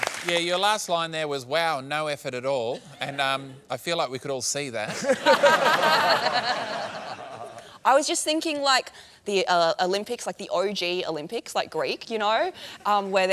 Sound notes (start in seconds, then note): 4.8 laughter